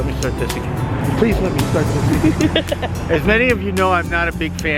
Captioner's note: laughs